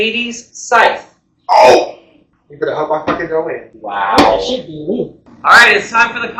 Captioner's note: grunt? gasp?